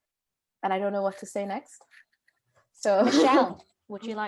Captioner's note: giggles